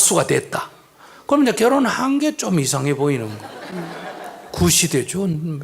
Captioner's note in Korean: 청중 웃음